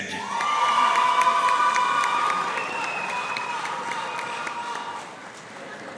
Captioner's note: audience cheering and applauding